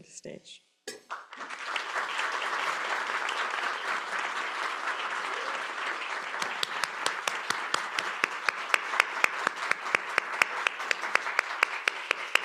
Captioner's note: applause